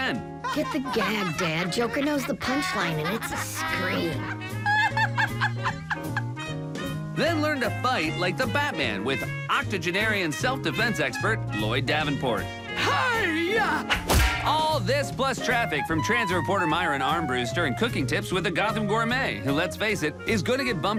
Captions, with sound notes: [laughter] - Get the gag, Dad. Joker knows the punchline, and it's a scream. - [laughing] - Then learn to fight like the Batman with octogenarian self-defense expert, Lloyd Davenport. - Hiya! [crash] - All this, plus traffic from transit reporter Myron Armbrust. Stirring cooking tips with the Gotham Gourmet, who, let's face it, is gonna get bumped again